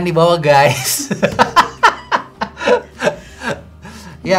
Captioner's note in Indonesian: Tertawa